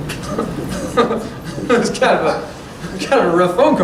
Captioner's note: laughter